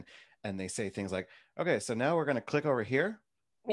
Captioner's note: none